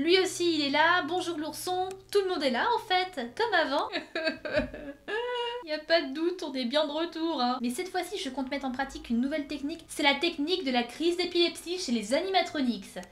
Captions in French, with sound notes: Lui aussi il est là, bonjour l'ourson Tous l'monde est là enfait, comme avant ! *Pleurs* Y'a pas d'doute on est bien d'retour, hein ! Et cette fois-ci je compte mettre en pratique une technique ; C'est la technique de la crise d'épilepsie chez les animatronics !